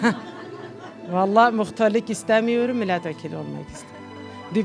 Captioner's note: people laughing